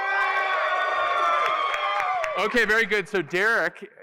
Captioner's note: applause